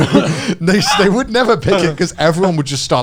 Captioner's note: both chuckling